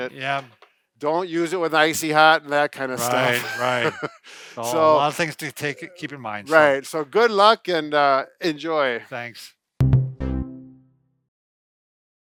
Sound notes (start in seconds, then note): 3.0 laughs; 9.8 upbeat music